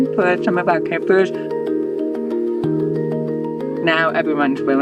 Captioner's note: quiet chatter